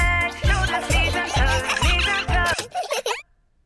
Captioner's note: giggling; music stops